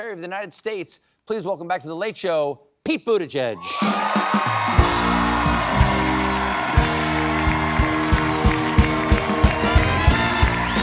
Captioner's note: cheers and applause